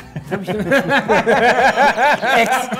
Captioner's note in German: Lachen